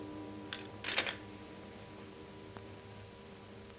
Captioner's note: phone clatters